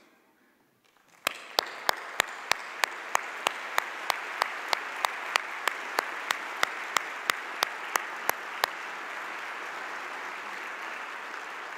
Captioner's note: audience applause